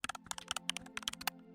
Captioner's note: keyboard clicking